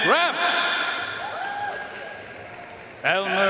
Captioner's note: audience cheering and applauding